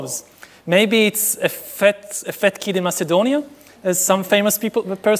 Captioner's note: speaking foreign language